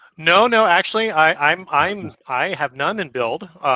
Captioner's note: stammers